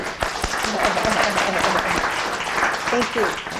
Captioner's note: applause